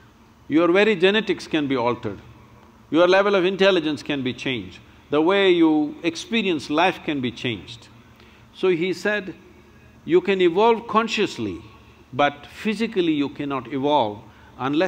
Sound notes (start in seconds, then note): none